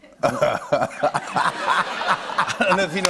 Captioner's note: laughter; laughs